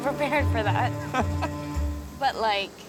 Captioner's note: nervous laughter